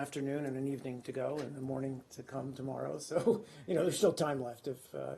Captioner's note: laughter